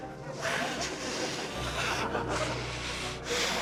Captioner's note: laughter